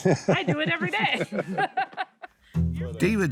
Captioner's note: laughs